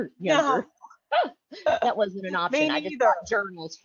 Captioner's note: laughs